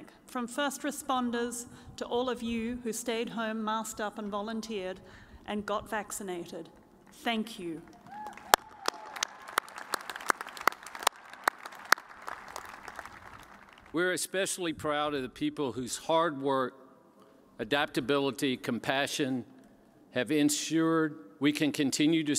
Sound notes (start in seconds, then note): 7.9 cheers and applause